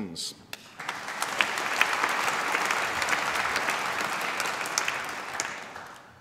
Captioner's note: applause